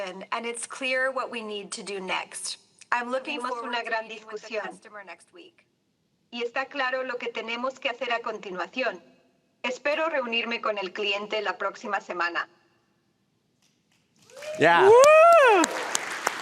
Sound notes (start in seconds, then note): 10.2 spanish; 14.2 cheers